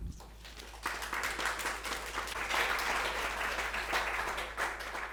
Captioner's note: audience clapping